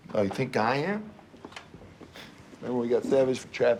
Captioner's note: scoffs